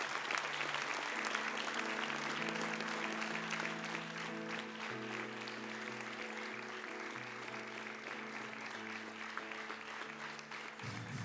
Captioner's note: applause